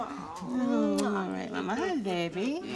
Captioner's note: kiss smacks